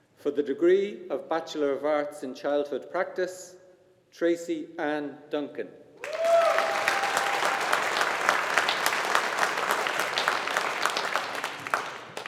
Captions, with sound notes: For the degree of Bachelor of Arts in Childhood Practice, Tracey Ann Duncan. (AUDIENCE APPLAUDING)